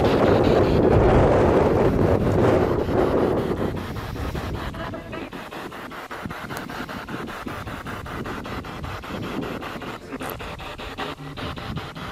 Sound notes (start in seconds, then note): 1.6 radio noise from the spirit box